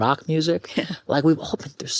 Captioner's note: chuckles